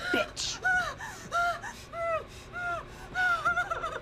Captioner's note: Maria gasping